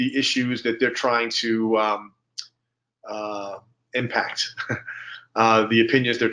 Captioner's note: chuckles